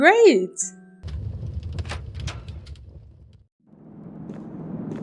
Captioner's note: door opening